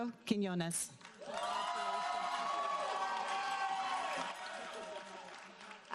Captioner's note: audience applauding